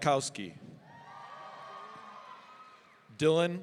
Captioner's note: audience cheering